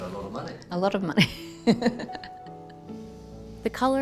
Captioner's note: laughs